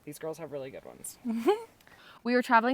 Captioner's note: laughs